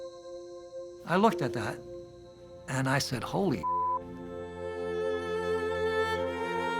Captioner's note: beep